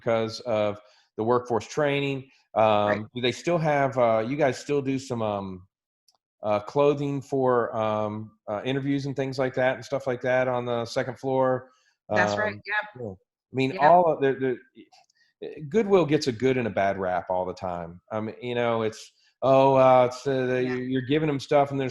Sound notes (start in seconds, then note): 13.6 murmurs